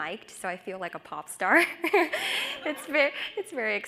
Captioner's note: laughs